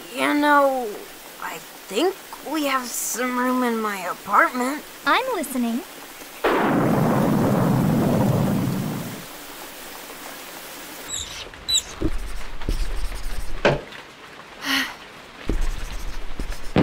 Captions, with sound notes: You know...I think we have some room in my apartment? I'm listening... (thunder) (sigh)